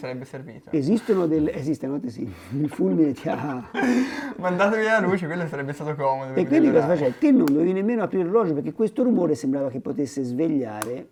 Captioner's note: laughs